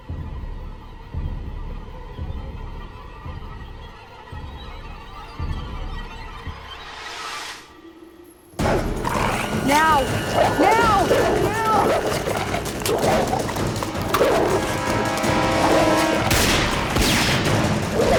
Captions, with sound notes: ( dog barking ) Now, now, now! ( gunshots )